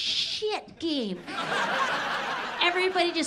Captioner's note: audience laughs